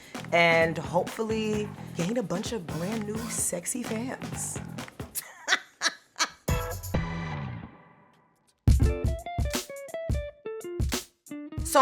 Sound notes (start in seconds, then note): 5.1 laughing; 8.7 upbeat jazz music